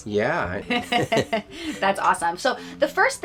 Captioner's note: chuckle